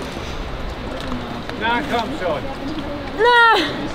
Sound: speaking foreign language

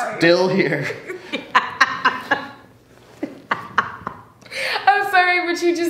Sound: interviewee laughs

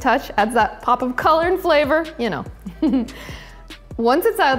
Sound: chuckles

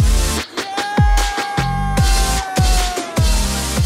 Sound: people cheering

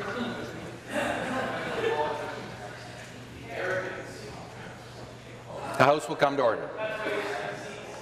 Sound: conversation din

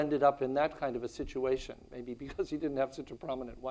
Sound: chuckles

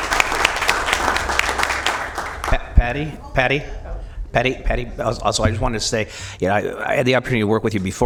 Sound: applause

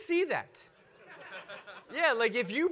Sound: audience laugh

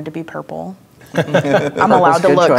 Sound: players laughing

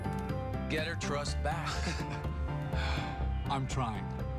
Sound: laughs

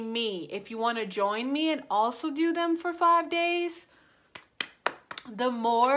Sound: hands claps

